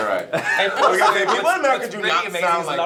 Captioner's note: laughter